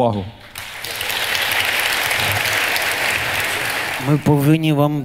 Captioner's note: the audience cheers